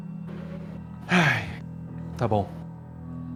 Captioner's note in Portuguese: suspira